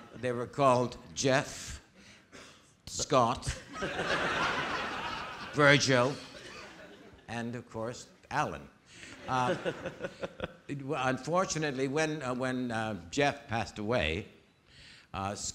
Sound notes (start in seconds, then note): 3.6 audience laughing